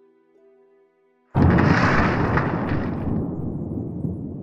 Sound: crash

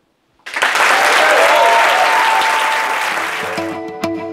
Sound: applause

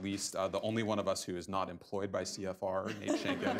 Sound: laughter

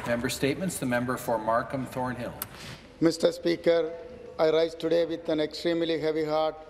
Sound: applause

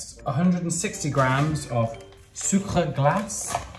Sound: speaking in foreign language

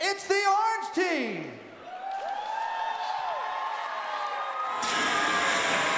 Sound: audience cheering; steam spewing

